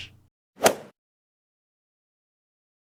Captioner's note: swoosh